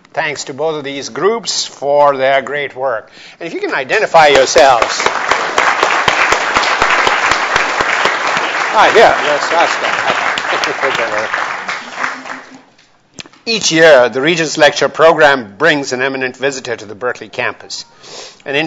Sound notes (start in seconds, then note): 4.2 everyone applauds; 10.4 drowned out by applause